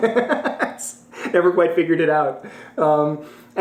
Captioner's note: laughs